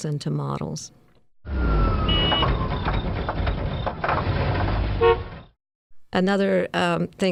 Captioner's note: car engine revs, car horn